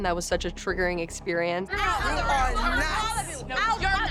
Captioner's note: overlapping chatter